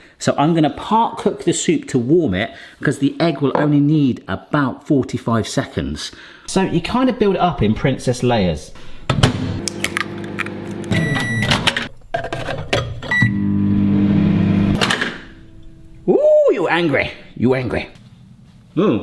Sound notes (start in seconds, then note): 9.7 egg cracking; 11.7 microwave beeping